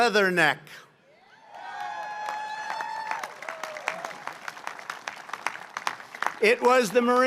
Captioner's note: applause